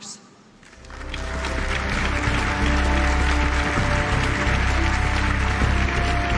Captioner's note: applause